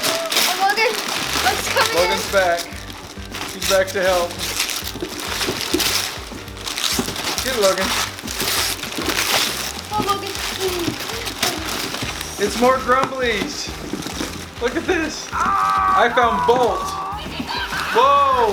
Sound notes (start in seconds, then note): 15.3 toy roars